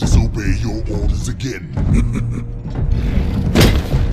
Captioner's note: chuckle